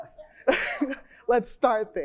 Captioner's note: chuckles